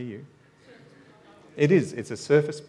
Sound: audience mumbling

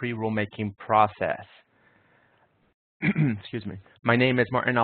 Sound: clears throat

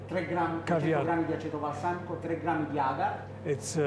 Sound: speaking Italian

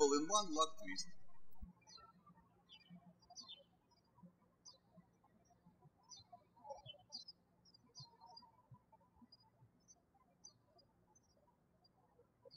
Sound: birds chirping

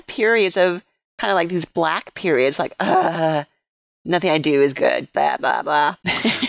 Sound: laughter

